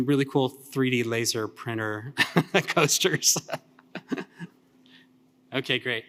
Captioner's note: laughs